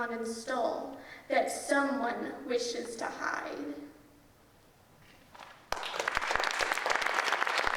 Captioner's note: audience applauding